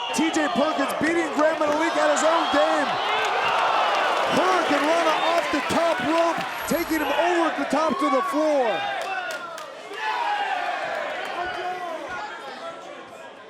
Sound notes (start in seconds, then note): 9.9 crowd shouting